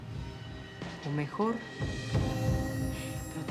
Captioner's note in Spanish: none